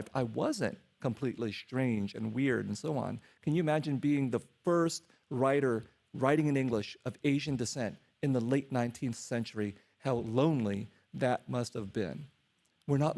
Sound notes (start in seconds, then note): none